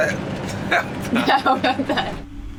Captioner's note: laughs